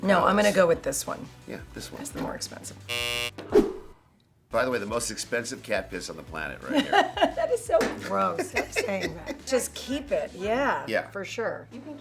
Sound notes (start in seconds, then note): 2.8 buzzer ringing; 8.4 laughs